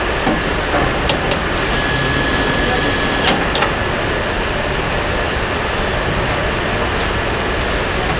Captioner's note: metal clanging; metal clanging